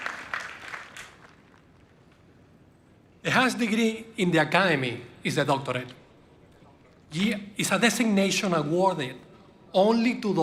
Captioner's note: applause